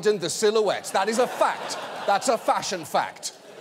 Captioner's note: audience laughing